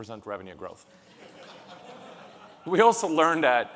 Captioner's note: audience lauhing